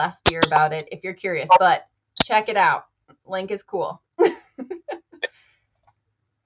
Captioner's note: laughs